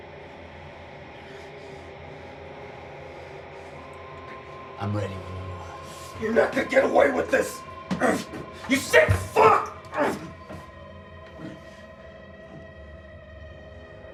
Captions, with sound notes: - I'm ready when you are. - You're not gonna get away with this! You sick fuck (grunts)! (tense music)